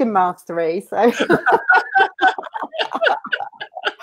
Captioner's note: laughing